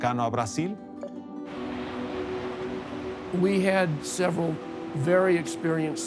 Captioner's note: water rushing; in English